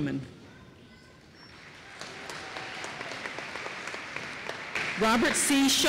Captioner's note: applause